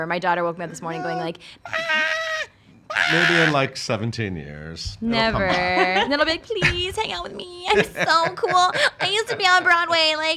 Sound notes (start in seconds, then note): 7.6 laughing